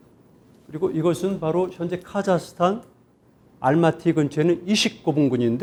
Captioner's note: speaking in Korean